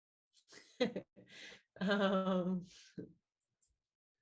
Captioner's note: Javicia laughs